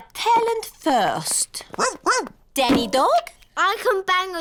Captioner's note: barks